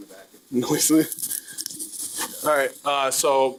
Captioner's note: chuckling